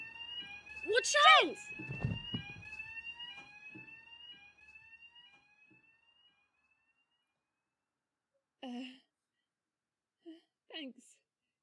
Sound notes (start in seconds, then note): 1.8 tumbling noise; 2.6 fire alarm fades out